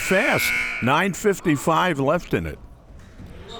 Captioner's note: buzzer ringing